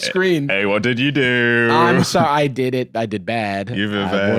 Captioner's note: playfully